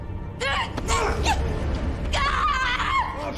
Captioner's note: grunting; screaming